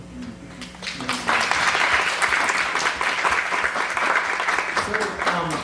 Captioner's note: applause